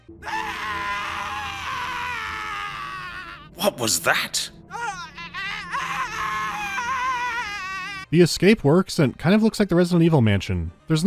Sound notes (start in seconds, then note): 0.2 heart-rending scream; 4.7 more screams of agony